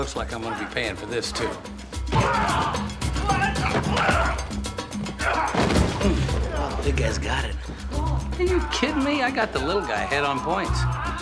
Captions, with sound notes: Bubba, it looks like I'm gonna be paying for this, too. (grunting) Mm. Wow, the big guy's got it. Are you kidding me? I got the little guy ahead on points.